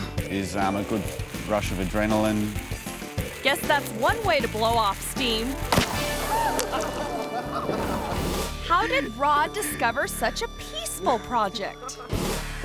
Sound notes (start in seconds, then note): 5.6 explosion bangs; 6.0 people shout and laugh